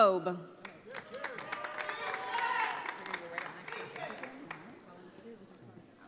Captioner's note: audience applauding